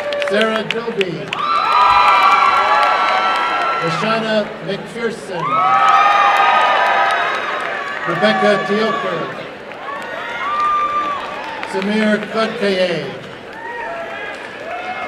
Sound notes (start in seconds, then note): 0.0 applause and cheering; 1.9 applause and cheering; 6.0 applause and cheering; 9.4 applause and cheering